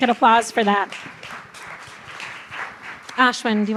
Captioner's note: applause